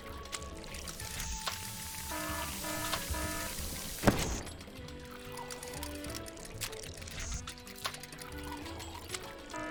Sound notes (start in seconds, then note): 2.0 alarm blaring; 4.0 cupcake exploding